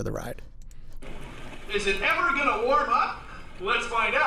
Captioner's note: Bill Nye’s voice